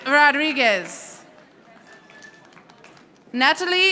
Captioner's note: audience applauding